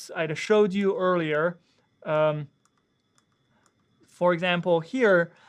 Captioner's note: mouse clicking